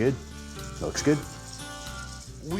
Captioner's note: sizzling sound